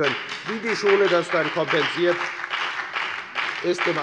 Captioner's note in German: Beifall bei der FDP und bei Abgeordneten der SPD